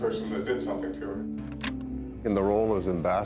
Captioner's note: button clicks